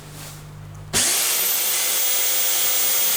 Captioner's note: high-pitched whirring